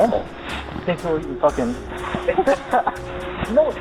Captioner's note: laughter